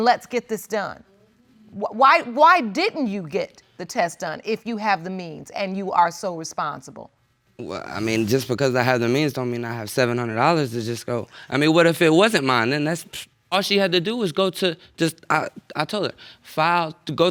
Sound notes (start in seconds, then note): none